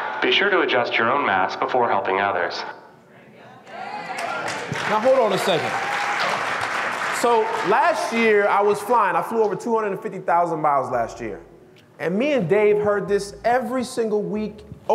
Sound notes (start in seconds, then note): 3.9 audience still clapping; 4.0 audience claps